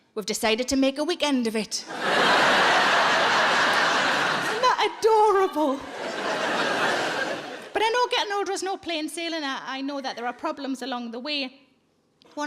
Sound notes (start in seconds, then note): 1.8 audience laughing